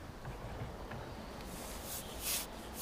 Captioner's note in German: Vogelzwitschern